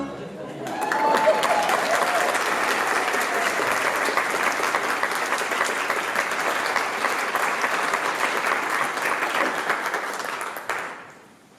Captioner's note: applause